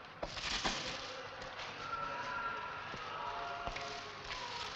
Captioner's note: distant moaning